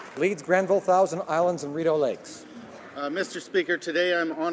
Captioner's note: applause